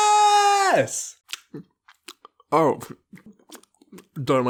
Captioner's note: chewing sounds